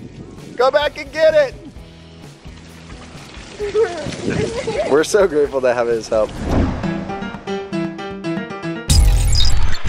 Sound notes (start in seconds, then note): 4.4 laughter